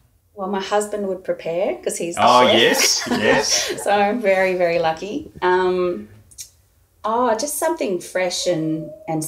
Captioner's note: laughing